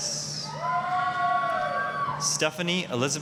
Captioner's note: applause, cheering